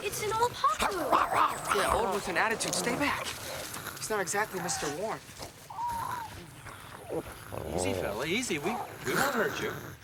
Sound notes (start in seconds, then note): 0.7 Paku snarls; 5.8 Tasha whines; 9.8 Paku growls and hisses